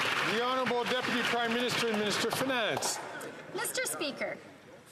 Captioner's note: some Applause